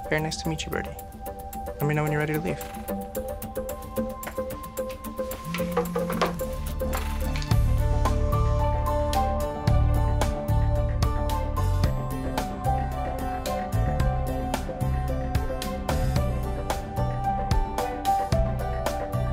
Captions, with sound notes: - Very nice to meet you, Birdie. Let me know when you're ready to leave. (phone buzzing) (upbeat music)